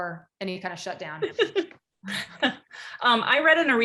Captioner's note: giggles